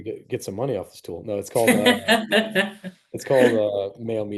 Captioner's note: laughing